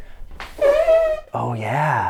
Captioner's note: blows raspberry